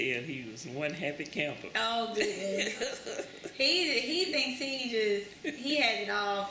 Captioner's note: laughs